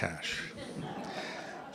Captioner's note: laughter